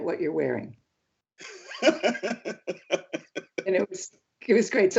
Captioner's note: laughs